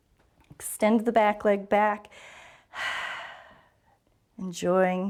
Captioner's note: exhales